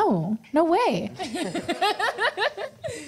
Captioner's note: laughter